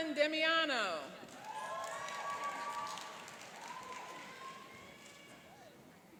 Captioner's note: cheering and applauding